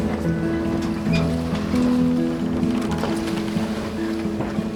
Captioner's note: waves lapping